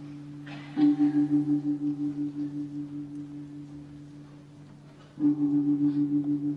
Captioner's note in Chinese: 钟声……